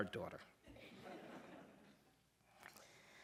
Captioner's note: laughter